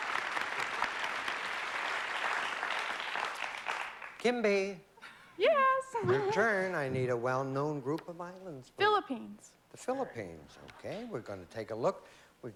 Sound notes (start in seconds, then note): 5.3 high-pitched voice